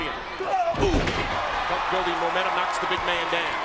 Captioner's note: men grunt